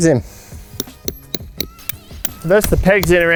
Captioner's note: metallic tapping